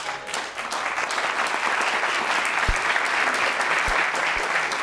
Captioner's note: applause